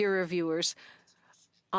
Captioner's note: speaking French